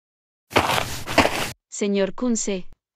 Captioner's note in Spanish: FX - Footsteps - On Multiple Dirt - Walk